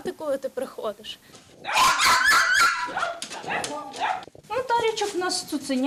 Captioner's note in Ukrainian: гавкає